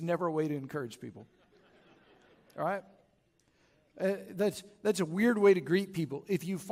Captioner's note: chuckles